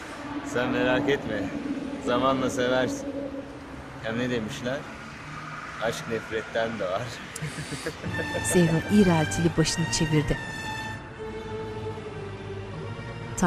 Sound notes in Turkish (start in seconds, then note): 7.1 Gülme sesi; 7.9 Müzik - Arabesk